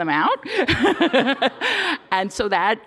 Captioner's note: laughter